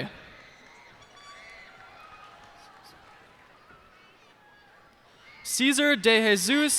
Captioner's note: cheers and applause